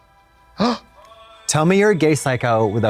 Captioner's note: Trixie gasps